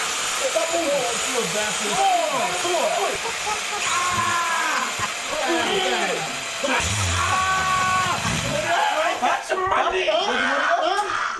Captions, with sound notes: Stop moving! (SCREAMING) I got your money